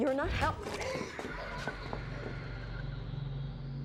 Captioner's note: gasping; voices whispering; eerie instrumental music